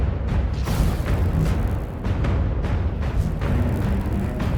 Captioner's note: energy buzzing